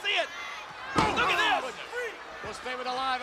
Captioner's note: head thuds